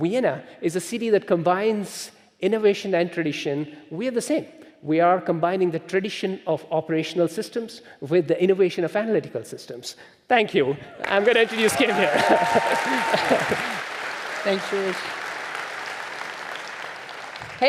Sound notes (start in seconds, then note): 12.1 chuckling; 16.0 audience applauding